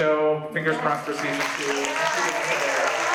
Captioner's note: audience applauds